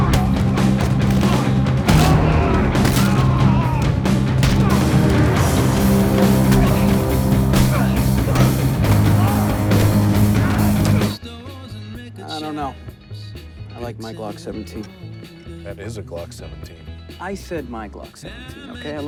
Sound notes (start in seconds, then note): 1.9 man groaning; 9.3 tense music